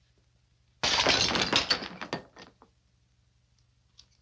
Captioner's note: glass shatters